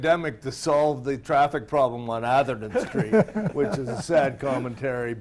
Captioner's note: laughing